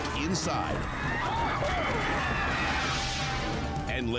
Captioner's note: onlookers screaming; screen whooshes